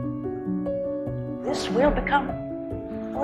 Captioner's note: voiceover